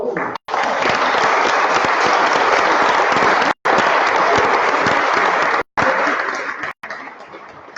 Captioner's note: applause